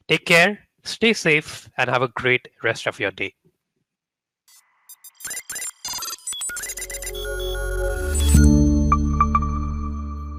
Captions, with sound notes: Take care, stay safe, and have a great rest of your day. (electronics beeping) (ethereal music)